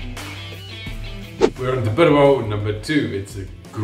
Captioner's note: upbeat rock music; whooshing